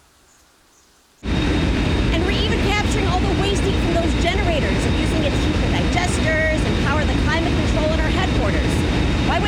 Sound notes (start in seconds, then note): 1.2 machines whirring